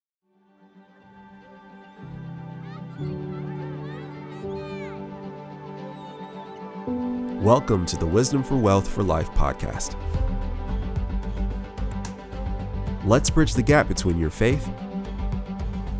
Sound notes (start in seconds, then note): 0.2 gentle music; 2.6 children playing and screaming; 9.9 energetic symphony music